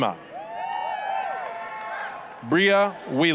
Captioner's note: applause, cheering